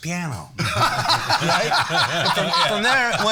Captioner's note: all laughing